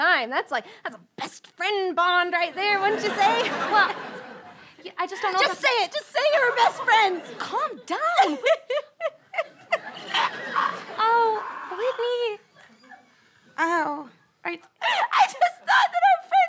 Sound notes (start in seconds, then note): 11.0 crying